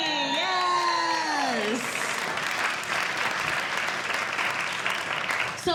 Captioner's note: audience Cheering